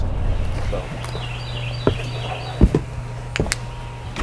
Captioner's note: birds chirping